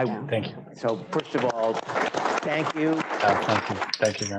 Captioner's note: applause